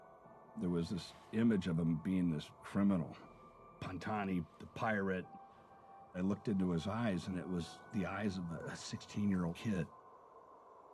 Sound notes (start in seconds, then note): none